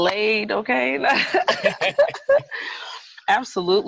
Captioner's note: both laugh